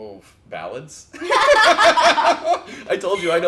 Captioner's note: laugh